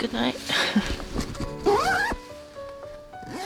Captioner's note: zipper